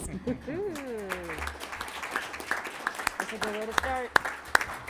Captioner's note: applauding